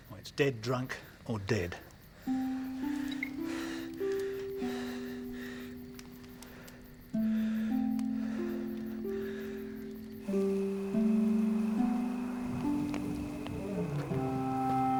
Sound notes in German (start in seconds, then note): 10.6 Heuschrecken zirpen